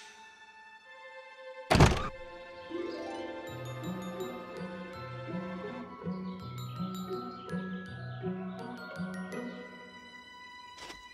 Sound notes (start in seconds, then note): 1.8 birds chirp